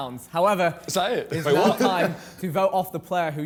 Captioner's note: laughs